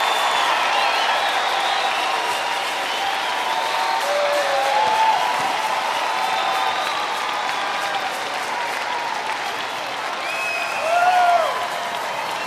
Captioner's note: cheering and applaus